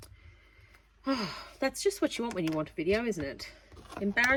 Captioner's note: sigh